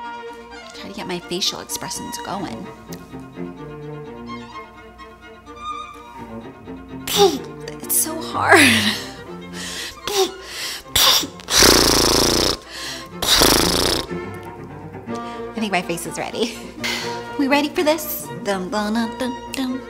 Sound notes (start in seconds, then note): 10.3 making blowing noises